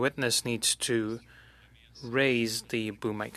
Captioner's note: speaking French